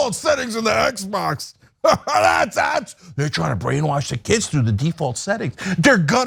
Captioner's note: laugh